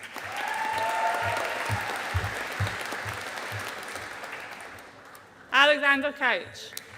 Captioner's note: audience applauding